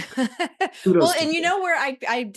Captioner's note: chuckles